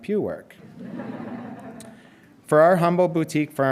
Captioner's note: audience chuckling